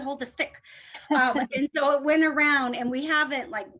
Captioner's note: laughter